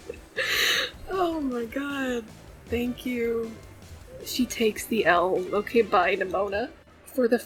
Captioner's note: laughs